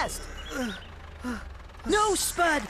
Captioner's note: Travis Panting